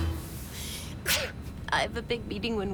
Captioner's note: sneezes